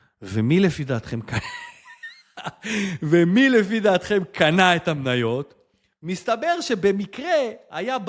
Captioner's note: laughter